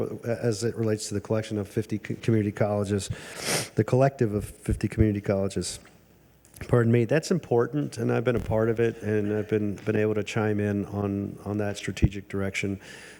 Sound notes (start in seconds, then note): none